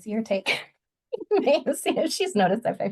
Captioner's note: laughs